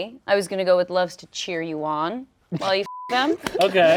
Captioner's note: beep